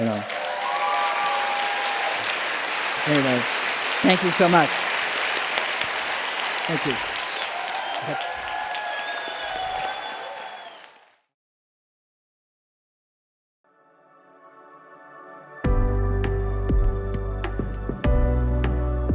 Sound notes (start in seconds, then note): 8.6 applause